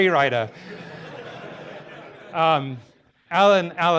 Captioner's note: audience laughter